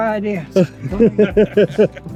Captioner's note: laughing